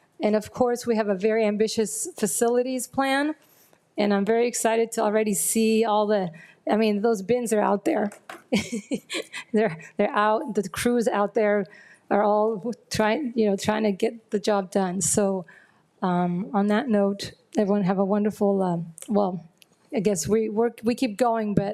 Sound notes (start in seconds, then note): 8.4 chuckles